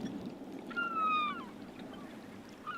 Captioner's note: gulls calling